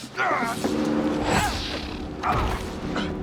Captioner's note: cries out; dramatic music